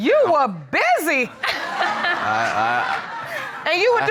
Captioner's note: audience laughing